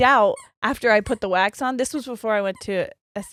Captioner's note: dog toy squeaking